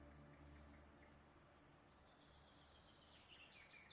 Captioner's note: birds chirping